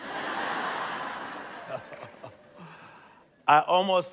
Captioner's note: laughter; chuckles